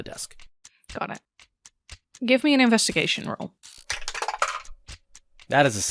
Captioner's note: Dice tower clacks